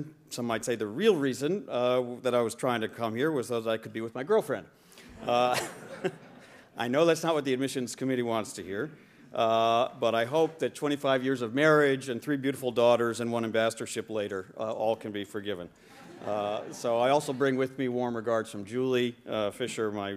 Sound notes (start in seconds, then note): 5.4 laughing